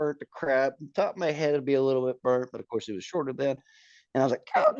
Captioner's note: groaning